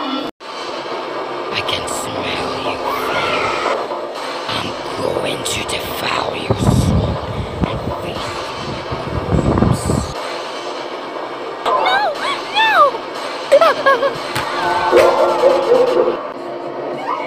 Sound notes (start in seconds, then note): 2.9 scream; 13.5 scary laugh; 14.4 scream; 15.0 door being opened